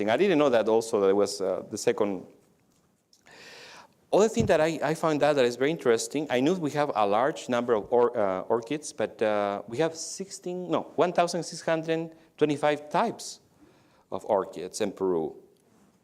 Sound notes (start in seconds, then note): none